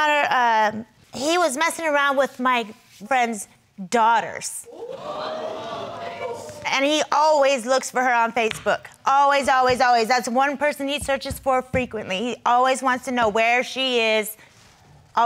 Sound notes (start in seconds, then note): 4.7 crowd gasping